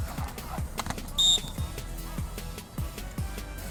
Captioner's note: whistle blows